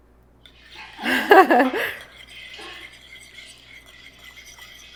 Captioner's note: chuckles